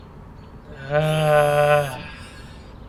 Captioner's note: frustrated groan